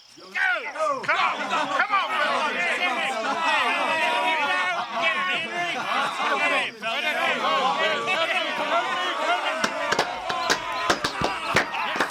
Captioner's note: men cheering